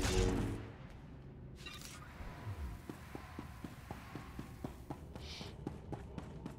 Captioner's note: sighs